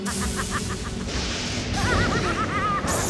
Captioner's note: laughs evilly; thunder crashing